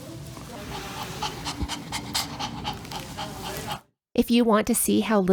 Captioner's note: heavy panting